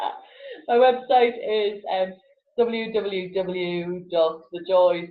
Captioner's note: laughs